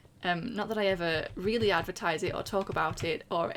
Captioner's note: none